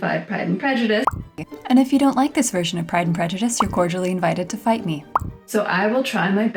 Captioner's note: pop noise